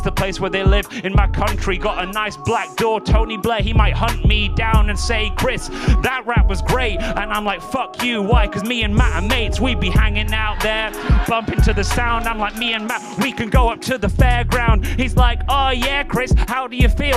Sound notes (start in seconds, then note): 11.7 audience whoops